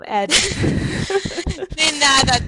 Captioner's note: chuckle